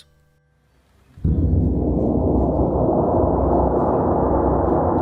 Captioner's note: gong sounds